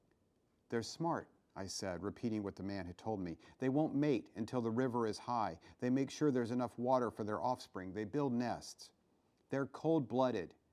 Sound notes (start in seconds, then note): none